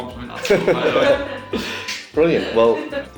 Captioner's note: all laughing